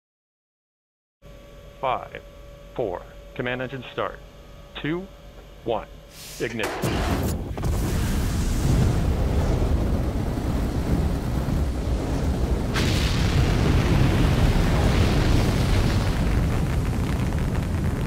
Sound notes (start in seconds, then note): 6.3 rocket powering on; 12.6 engine rumbling